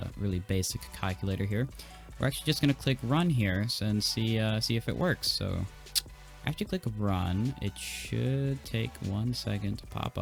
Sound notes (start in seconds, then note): 1.7 inhale; 5.9 lip smack